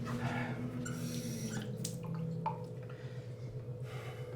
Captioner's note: water splashing